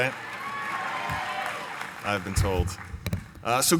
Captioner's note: cheering and applause